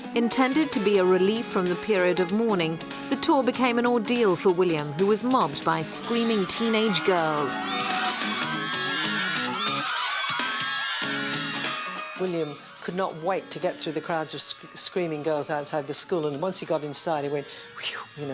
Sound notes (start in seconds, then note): 7.9 screaming